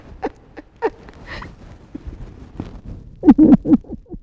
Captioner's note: laughter